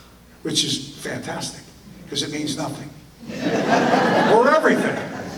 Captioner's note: audience laughter